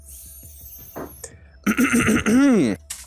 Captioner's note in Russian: Пафосно откашливается